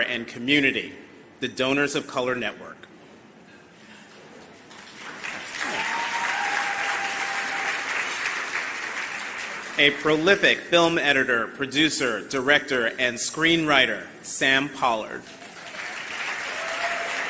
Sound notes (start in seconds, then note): 8.6 applause